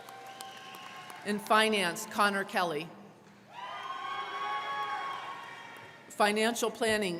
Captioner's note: crowd clapping; crowd cheering